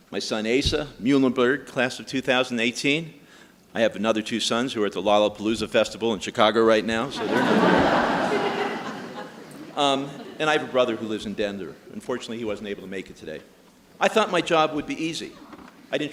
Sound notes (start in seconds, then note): 7.0 audience laughing